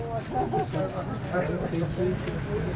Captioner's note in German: Stimmengewirr